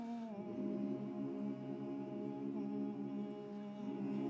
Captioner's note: humming